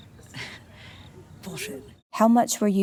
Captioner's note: chuckles